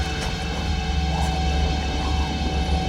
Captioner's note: growling